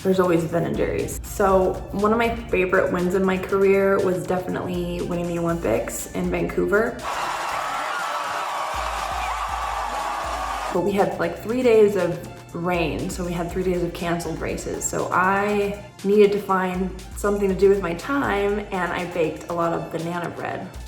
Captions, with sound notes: there's always Ben and Jerry's. So, one of my favorite wins in my career was definitely winning the Olympics in Vancouver (crowd cheers) But we had like three days of rain so we had three days of canceled races so I needed to find something to do with my time and I baked a lot of banana bread.